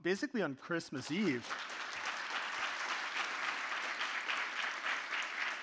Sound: audience applauding

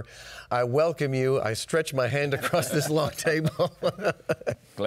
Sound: laughs

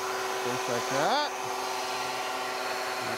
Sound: saw revving

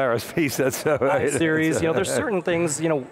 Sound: laughs

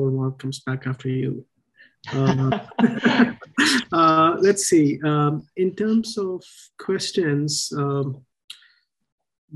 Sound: laughter

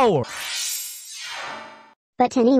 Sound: teleportation noises

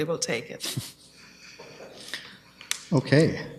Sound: chuckles

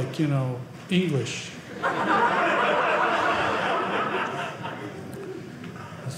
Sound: audience laughing

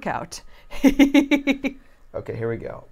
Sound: chuckling

